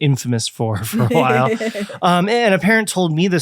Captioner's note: laughing